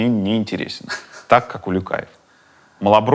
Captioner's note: laughs